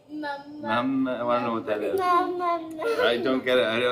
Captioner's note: normal voice